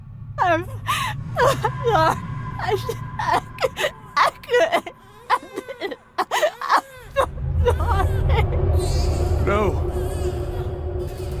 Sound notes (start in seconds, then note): 6.0 Judith crying